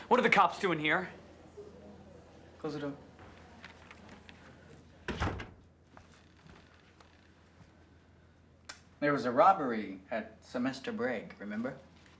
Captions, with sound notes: - What are the cops doing here? - Close the door. (door thudding) There was a robbery at semester break. Remember?